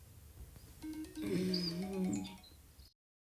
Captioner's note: alarm